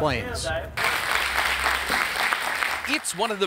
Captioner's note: audience applauding